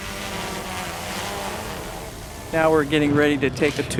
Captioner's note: drone buzzing